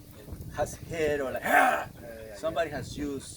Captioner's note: growls